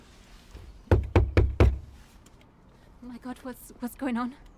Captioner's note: door knocking loudly